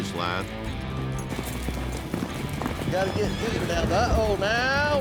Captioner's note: hoofbeats